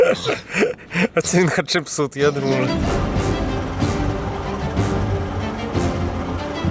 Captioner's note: laughter